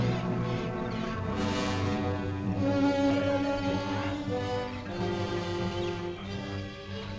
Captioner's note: unsettling orchestral music; animals chittering